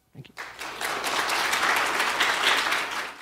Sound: audience applauding

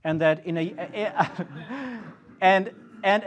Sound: audience laughs

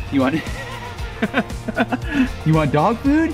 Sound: laughs

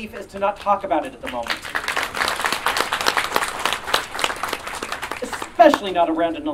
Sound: audience Applause

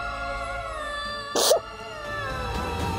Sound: sobs

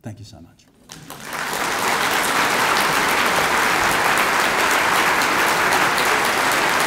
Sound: audience applauds

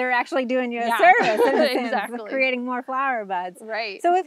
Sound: laughs

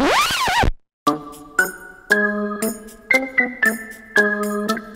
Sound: SFX - Record Scratch

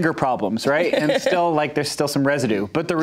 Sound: laughs

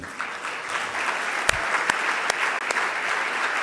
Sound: loud clapping

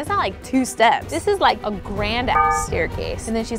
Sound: beeps

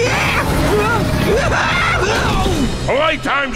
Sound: screaming

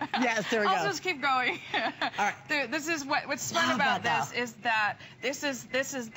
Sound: laughter

